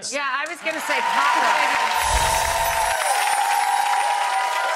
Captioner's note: audience claps